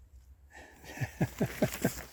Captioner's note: laughs